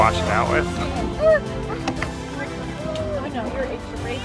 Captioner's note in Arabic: أورورا تبكي